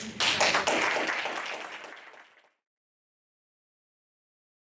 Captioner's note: attendees applauding